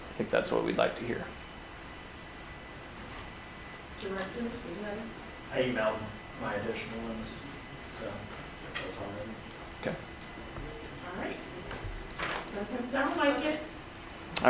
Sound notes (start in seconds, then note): none